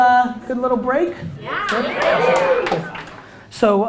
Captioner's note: cheers